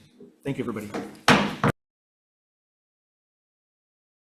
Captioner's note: gavel pounds